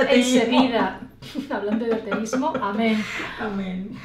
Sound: laughs

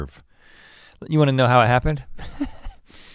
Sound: laughs

